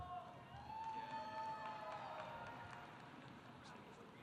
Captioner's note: audience cheering